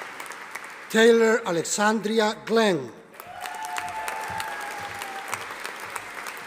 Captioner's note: audience applauding